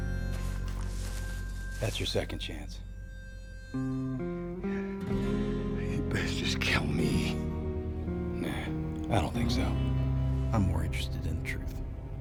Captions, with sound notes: THAT'S YOUR SECOND CHANCE. [SCOTTISH ACCENT] YOU BEST JUST KILL ME. NAH I DON'T THINK SO, I'M MORE INTERESTED IN THE TRUTH.